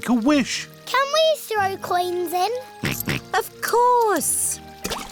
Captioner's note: snorts